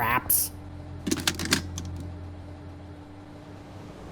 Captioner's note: Nerf Gun shoots